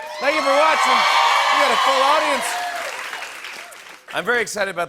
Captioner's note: cheers and applause